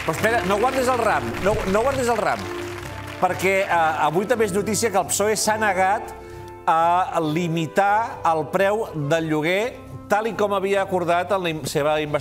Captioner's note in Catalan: aplaudiments